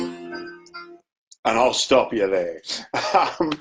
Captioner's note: laughs